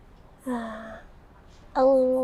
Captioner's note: sighs in single